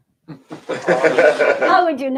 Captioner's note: laughter